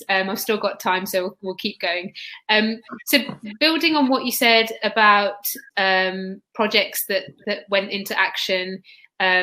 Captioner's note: erm; erm